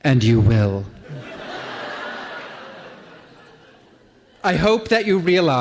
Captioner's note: laughter